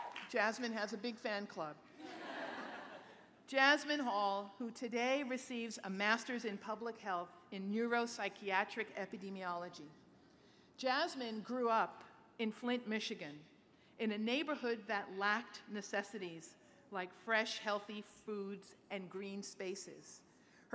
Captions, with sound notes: Jasmine has a big fan club. [LAUGHTER] Jasmine Hall, who today receives a Master's in Public Health in Neuropsychiatric Epidemiology. Jasmine grew up in Flint, Michigan, in a neighborhood that lacked necessities like fresh, healthy foods and green spaces.